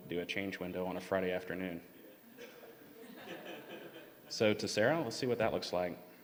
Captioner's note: laughter